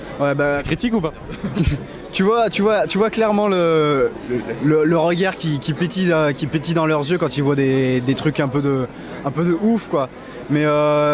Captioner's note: laughs